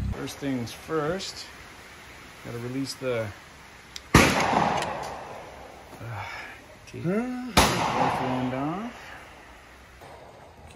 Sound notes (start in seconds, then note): 4.1 gun bangs; 6.0 man sighs; 7.5 gun bangs